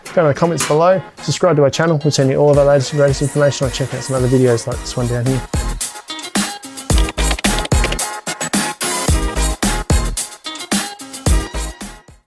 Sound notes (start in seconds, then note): 6.2 upbeat music; 6.9 keyboard clicking